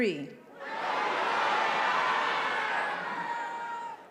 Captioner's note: graduates yelling